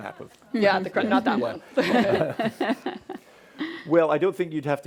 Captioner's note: chuckles